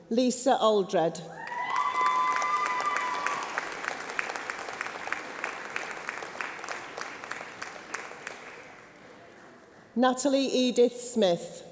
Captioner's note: applause